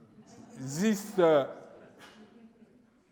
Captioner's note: laughing